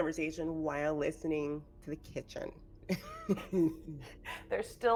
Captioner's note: laughing